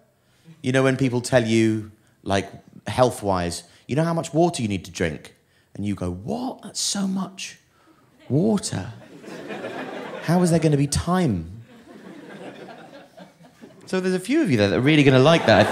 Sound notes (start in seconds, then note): 12.0 scattered laughter